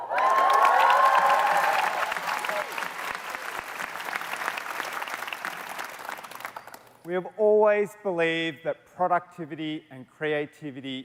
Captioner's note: cheers and Applause